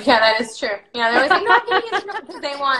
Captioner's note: laughs